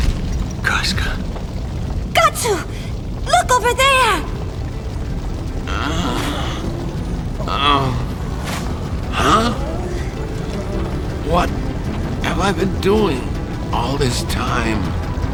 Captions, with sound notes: Casca... Gatsu! Look over there! (Groans) Huh? What... have I been doing all this time.